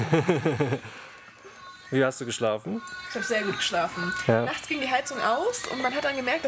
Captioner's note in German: gelächter